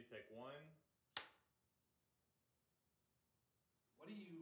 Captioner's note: clapperboard clicks